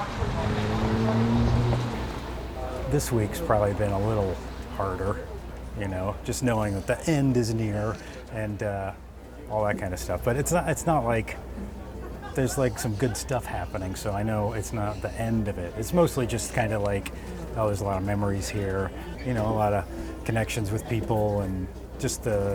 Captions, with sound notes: [traffic] -This week's probably been a little harder, you know, just knowing that the end is near and, all that kind of stuff. But it's not. It's not like there's, like, some good stuff happening. So I know it's not the end of it. It's mostly just kind of like, oh, there's a lot of memories here, you know, a lot of connections with people and just,